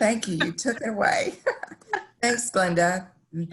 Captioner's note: laughter